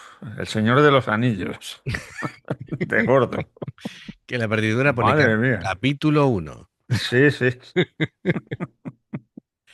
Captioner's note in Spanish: risas